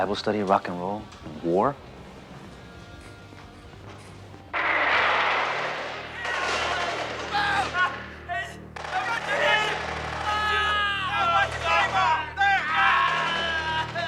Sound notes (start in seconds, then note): 4.5 gunshots; 8.8 men yelling; 8.8 suspenseful music